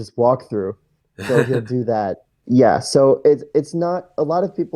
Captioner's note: laughs